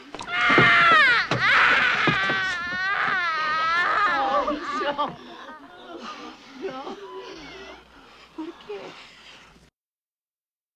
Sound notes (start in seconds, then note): 0.2 screaming; 4.1 women weeping; 8.1 speaks in spanish